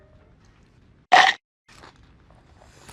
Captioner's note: cartoon munch sfx